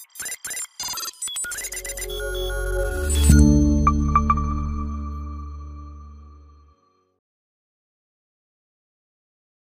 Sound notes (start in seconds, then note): 0.8 techy trills; 1.6 etheric tone